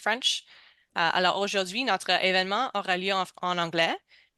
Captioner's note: speaking french